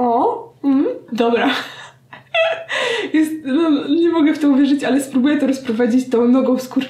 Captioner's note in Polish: śmiech